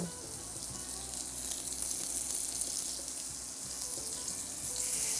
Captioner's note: chicken sizzling